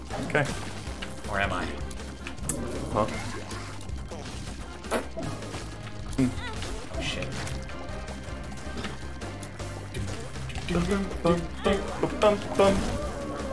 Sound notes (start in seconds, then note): 4.8 fart sound; 9.9 both singing the fight theme